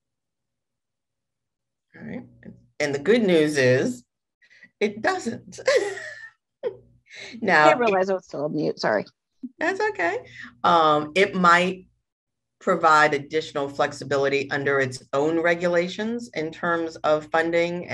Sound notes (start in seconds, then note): 5.6 chuckles